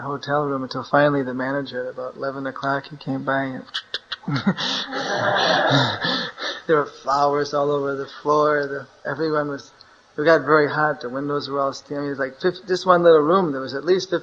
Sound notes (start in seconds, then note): 3.8 laughter; 4.0 makes knocking sound